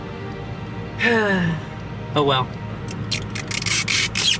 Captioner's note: sigh